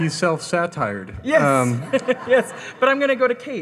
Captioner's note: laughs